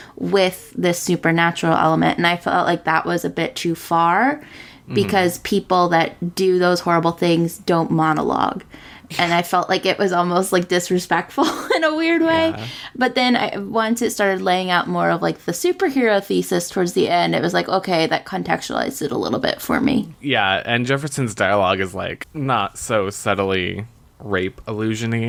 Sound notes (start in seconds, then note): 12.2 laughs